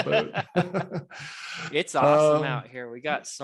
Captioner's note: laughing